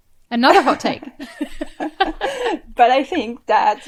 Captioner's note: both laugh